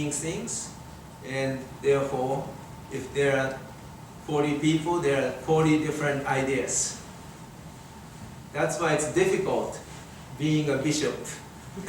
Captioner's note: everyone laughing